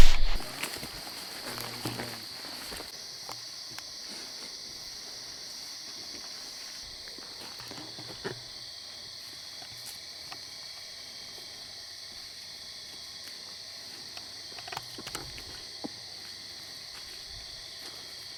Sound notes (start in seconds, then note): 0.9 insects chirp